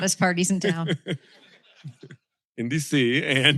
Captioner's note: laughter